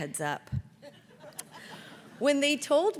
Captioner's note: audience laughs